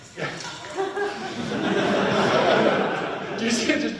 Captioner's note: people laughing